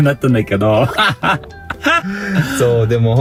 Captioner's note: laughs